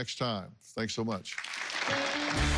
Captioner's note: applause